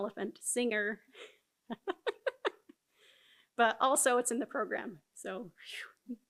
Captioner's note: laughs